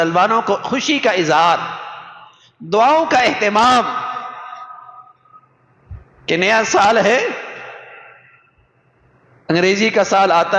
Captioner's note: sigh